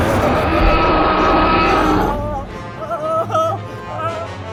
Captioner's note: screams; dinosaur roars; intense music